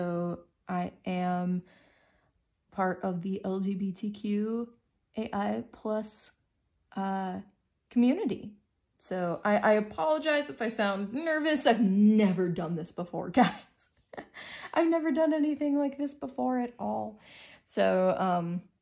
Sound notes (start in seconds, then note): 14.1 chuckles